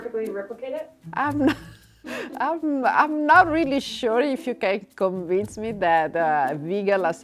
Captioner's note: laughing